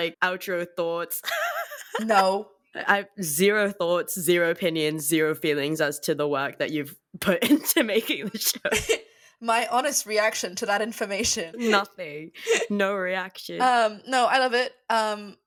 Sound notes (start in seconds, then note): 2.4 imitating Teia